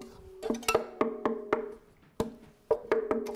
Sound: knocking sound

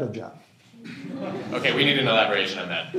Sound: laughter

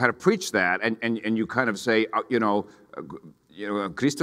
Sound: speaks in foreign language

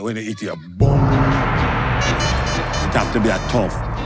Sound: hits gong

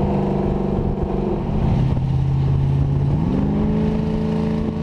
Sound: car engine roaring

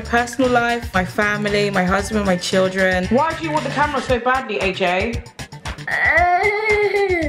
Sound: baby gurgles

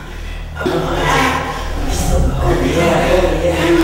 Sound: moaning sounds

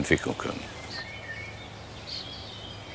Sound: birds chirping

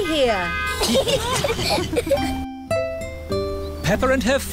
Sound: italians honk back; all giggling

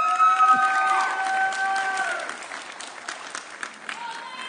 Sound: audience cheering

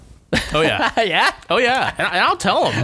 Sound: laughter

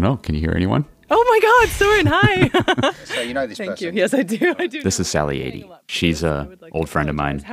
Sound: laughs

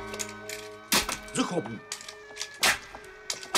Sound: in German

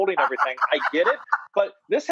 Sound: Rachael laughing

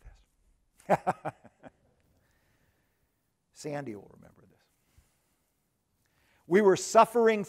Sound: laughs

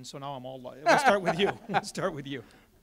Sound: candidates laugh

